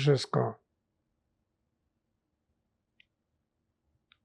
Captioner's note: pauses 8 seconds